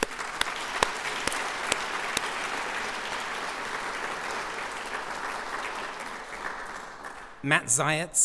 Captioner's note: applause